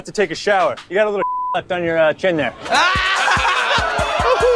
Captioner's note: beep; crowd laughs